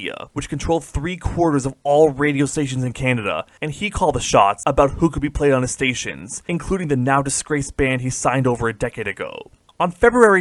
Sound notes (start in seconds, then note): none